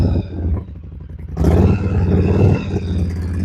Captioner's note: revving engine